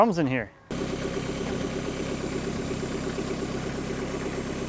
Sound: folk lift engine running

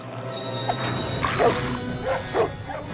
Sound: alarm sounding; dogs barking

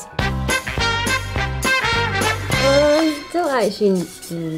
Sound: air whooshes

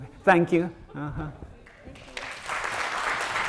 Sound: applause

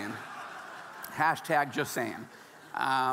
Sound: audience laughing

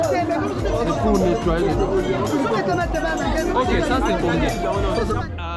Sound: man speaking foriegn language

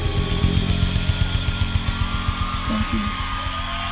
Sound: crowd cheering

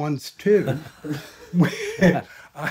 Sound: all chuckling

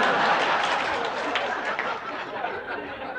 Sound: laughter

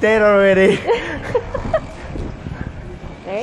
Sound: laughs

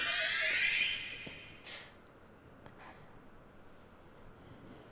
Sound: watch beeping

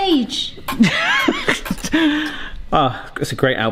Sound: laughs

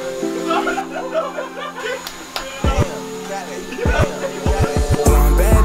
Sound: laugh

